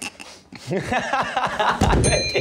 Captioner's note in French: rires